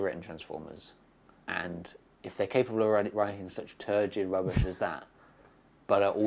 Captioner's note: laughs